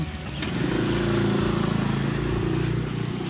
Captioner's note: engine rumbling